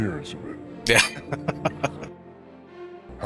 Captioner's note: chuckling